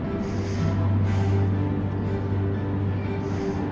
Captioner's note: Asher breathing heavily